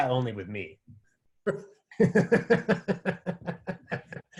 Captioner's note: laughter